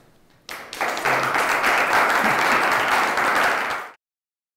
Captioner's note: audience applauding